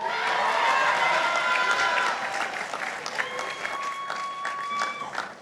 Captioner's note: participants applauding